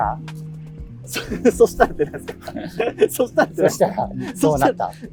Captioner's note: laughing